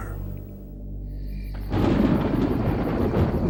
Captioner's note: thunder